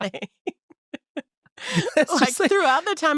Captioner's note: both laughing